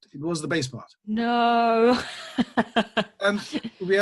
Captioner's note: laughs